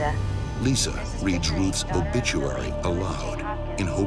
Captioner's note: voiceover